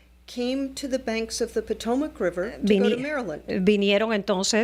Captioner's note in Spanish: Hablando ingl\s